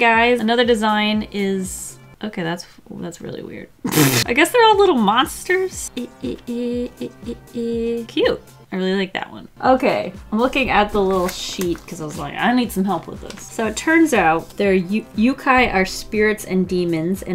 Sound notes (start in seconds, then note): 3.8 pfff; 5.9 hums ...?